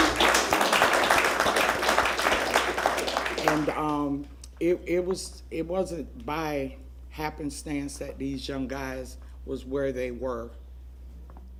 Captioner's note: applause